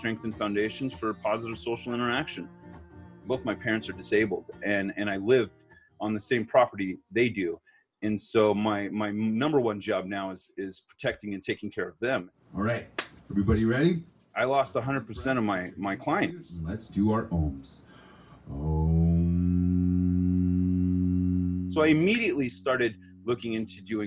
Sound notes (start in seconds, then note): 18.5 humming